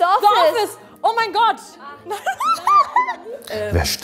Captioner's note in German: Kichern